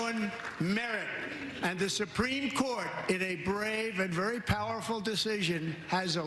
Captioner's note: applause